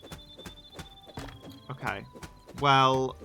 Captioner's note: none